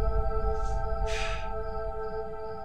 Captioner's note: Sighs